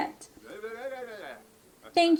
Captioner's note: goes weird in simlish